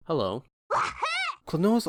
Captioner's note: klonoa wahoo voice clip